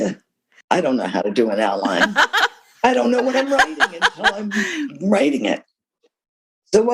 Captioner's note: laughter